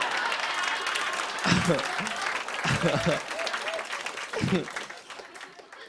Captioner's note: laughter and applause; chuckling